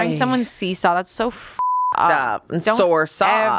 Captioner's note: beep